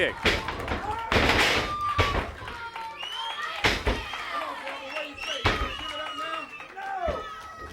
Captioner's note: crowd chatter